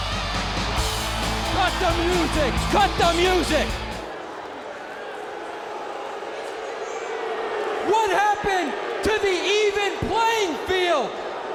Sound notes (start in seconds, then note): 4.6 audience booing